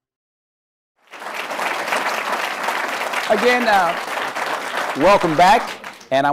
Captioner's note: applause